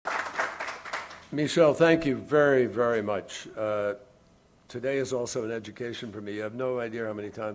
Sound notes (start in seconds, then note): 0.0 applause